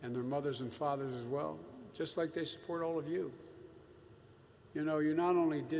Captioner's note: none